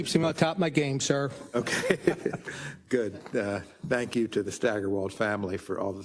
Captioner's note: laugh